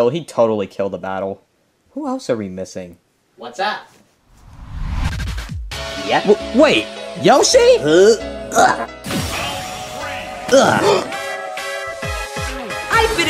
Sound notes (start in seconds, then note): 5.0 upbeat music; 7.9 Yoshi grunting; 10.4 upbeat music